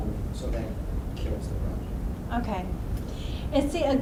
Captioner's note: voiceover